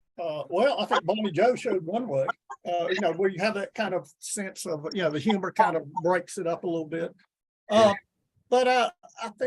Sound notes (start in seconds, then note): 0.5 chuckles